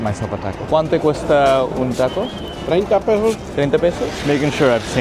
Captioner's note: foreign language